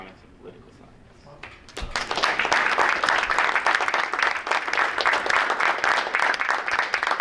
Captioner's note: group applauding